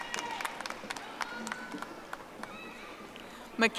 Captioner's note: audience applauding